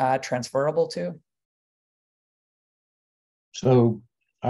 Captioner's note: pause